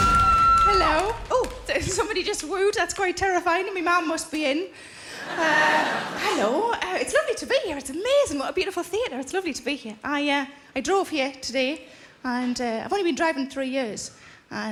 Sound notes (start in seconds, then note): 5.1 audience laughing